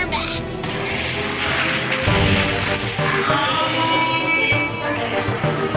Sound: roaring

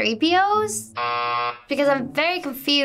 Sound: buzzer rings

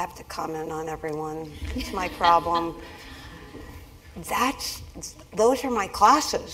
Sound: laugh

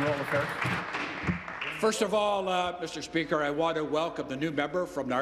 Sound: applause

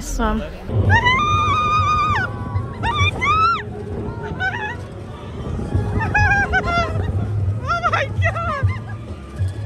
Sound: screaming

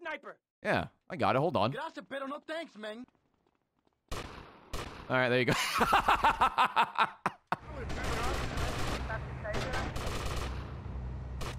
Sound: laughs

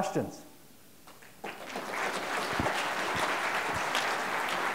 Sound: applause

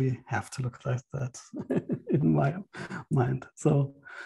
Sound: laughs

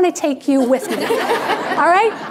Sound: audience laughing

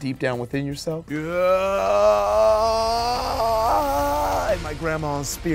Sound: intense music; screams

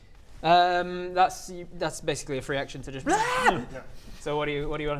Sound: bleaargh!

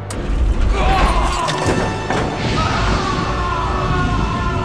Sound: screaming

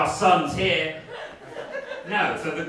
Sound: scattered laughing

